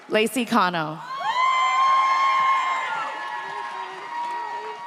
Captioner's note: audience cheers